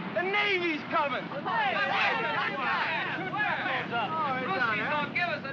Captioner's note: excited chatter